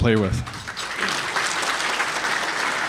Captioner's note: applause